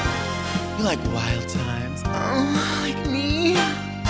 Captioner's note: moans